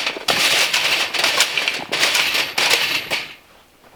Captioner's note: scraping